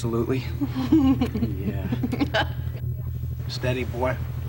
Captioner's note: laughing